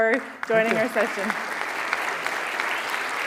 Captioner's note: audience applauding